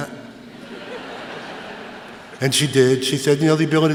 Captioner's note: laughter